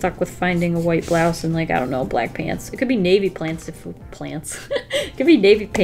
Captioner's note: laughs